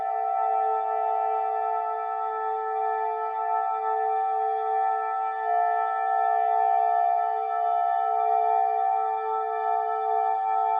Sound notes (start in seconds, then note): none